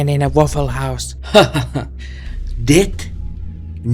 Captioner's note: laughs, biceps flexing